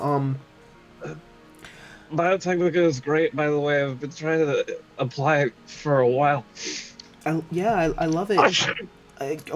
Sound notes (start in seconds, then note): 8.5 sneezes